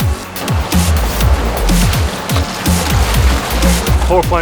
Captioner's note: upbeat music; upbeat music continues; water splashing